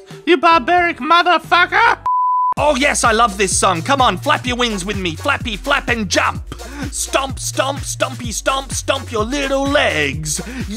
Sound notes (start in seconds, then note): 2.0 beep